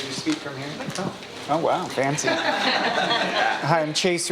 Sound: audience laughing

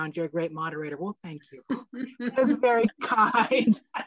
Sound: chuckles

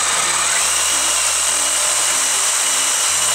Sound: saw noises

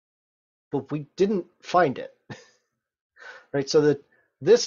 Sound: chuckles

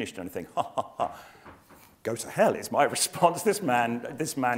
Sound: laugh

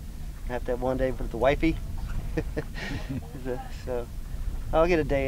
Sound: laughs

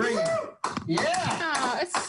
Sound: clapping

